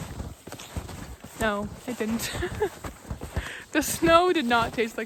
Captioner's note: laughs